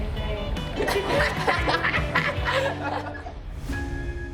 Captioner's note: all laughing